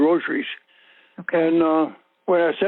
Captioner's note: over the Phone